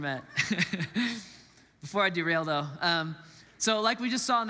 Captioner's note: laughs